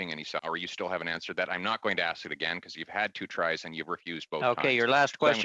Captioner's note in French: voix de l'interprète